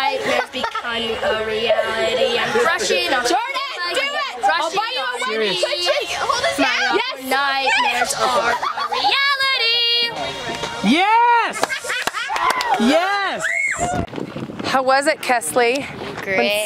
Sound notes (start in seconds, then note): 11.9 clapping